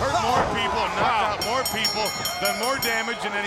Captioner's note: bell ringing